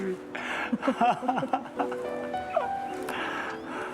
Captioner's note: both laugh